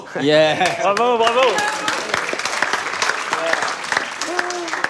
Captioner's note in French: aplaudissement